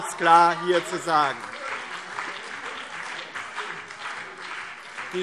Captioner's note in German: Beifall BÜNDNIS 90/DIE GRÜNEN und CDU - Zurufe DIE LINKE